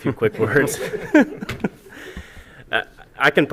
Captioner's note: laughter